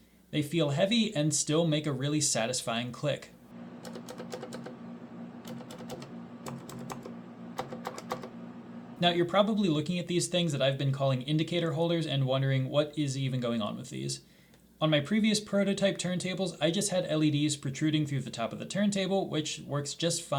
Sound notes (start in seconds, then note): 3.4 Satisfying Cherry MX clicks